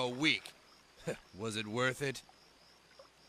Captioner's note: chuckles